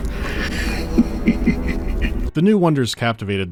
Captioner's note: laughs with morbid irony